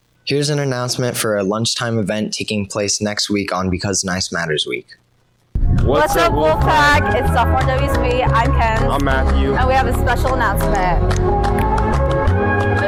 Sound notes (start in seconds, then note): 5.6 music under; 11.4 snapping fingers; 12.0 music and nat sound up full